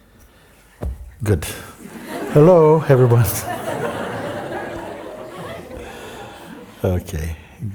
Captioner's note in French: rires